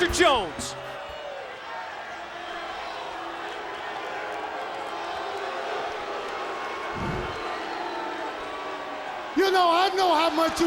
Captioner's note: crowd cheering